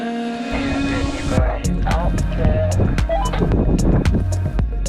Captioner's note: roger beep